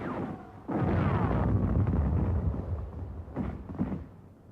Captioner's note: bombs exploding